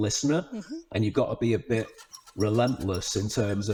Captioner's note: hamster wheel screeching